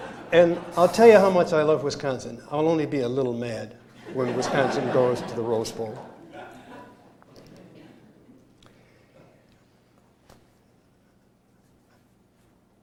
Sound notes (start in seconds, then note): 6.1 laughter